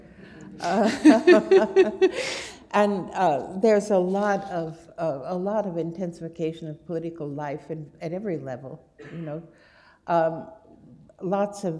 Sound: laughter

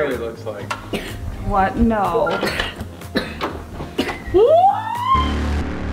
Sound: coughing; suspenseful music

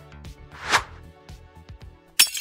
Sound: woosh

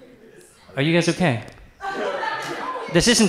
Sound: audience laughs

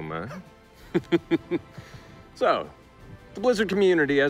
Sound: laughs

